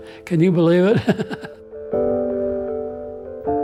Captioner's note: laughs